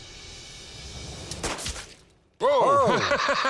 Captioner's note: gunshot; laughs